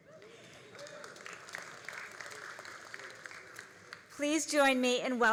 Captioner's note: all applauding